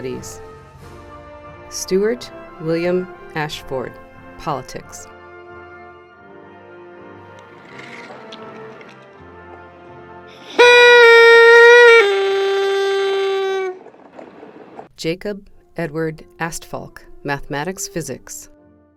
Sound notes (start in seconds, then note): 10.3 party horn blows